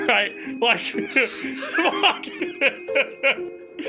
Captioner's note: laughs